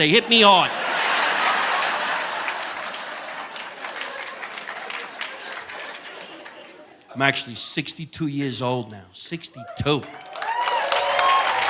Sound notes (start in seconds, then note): 0.0 audience laughing; 0.4 audience applauding